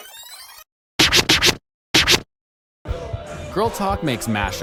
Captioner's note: record Scratching Sound